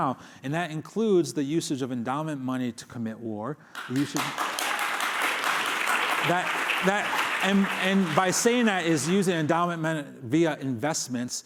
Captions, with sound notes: And that includes the usage of endowment money to commit war. You should-- [applause] And by saying that is using endowment via investments